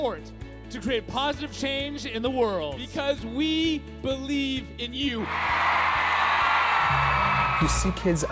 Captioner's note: cheering